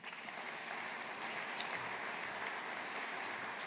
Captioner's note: audience applauding